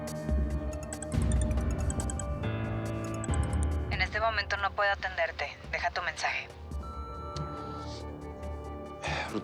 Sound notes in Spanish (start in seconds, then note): 0.8 Suena el celular; 6.8 Bip